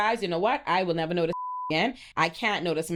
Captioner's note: beep